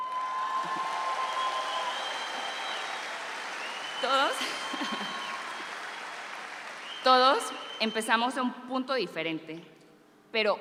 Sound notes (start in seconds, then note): 0.0 audience applauds; 4.3 continues her speech in Spanish